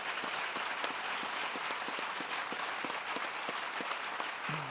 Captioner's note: clapping